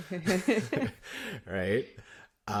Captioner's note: laughter